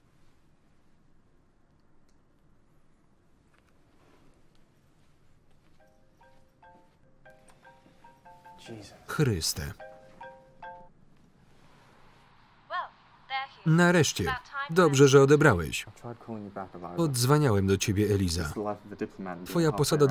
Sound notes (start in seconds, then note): 5.7 phone rings